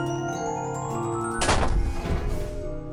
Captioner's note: door slam